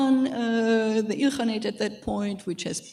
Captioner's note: speaking in foreign language